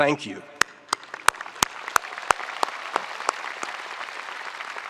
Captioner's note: spectators applauding